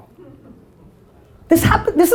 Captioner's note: audience murmuring